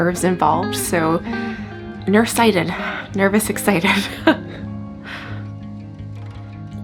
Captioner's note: laughs